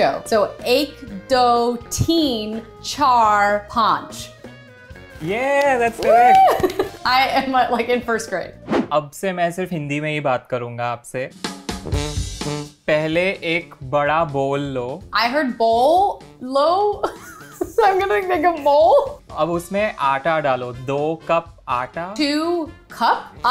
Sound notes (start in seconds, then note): 9.0 speaking in Hindi; 16.9 laughs; 19.4 speaking in Hindi